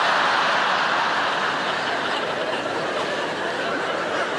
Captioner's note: audience laughing